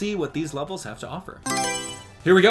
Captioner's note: Mario Selection Sound